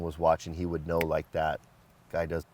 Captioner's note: fingers snap